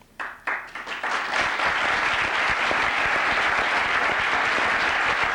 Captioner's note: applause